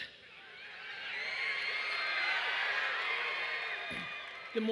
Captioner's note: audience screaming loudly